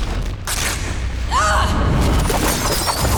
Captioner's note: screaming